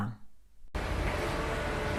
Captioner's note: engine humming